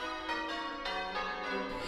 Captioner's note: church bells ringing